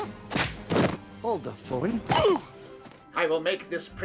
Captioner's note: grunts